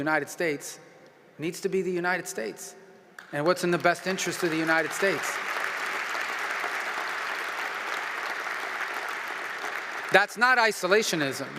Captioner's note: applause